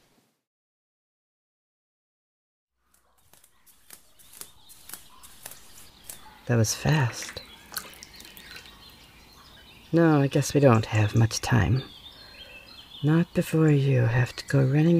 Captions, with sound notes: [Fade in on barefoot footsteps, pool ambience, and small splashes] That was fast. No, I guess we don’t have much time. Not before you have to go running